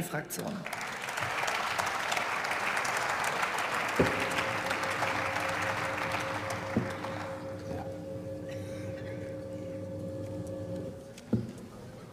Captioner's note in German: Beifall